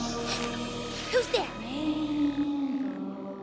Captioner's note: echoing; gasps